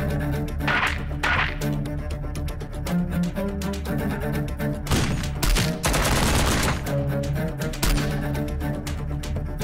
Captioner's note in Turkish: Silah Sesi